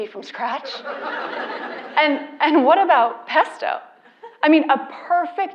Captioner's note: laugh